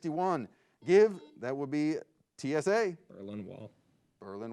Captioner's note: buzzer beeps